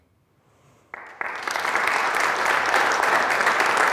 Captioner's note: applause